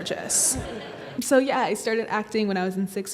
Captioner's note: audience laughs